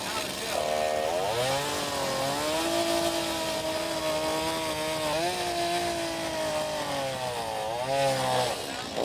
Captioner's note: chainsaw grinding